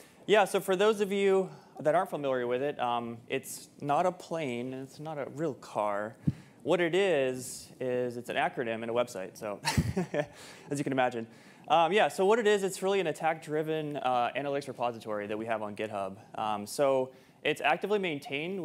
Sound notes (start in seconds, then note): 9.6 chuckles